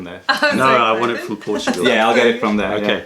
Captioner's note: laughter